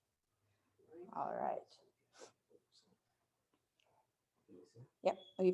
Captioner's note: faintly speaking